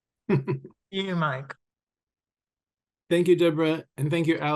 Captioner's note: laughs